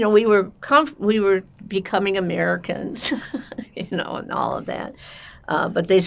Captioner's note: laughing